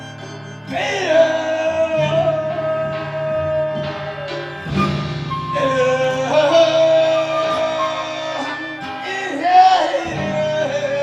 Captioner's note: humming